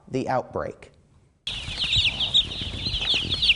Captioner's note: chicks chirping